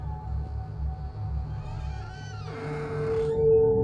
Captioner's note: door creaking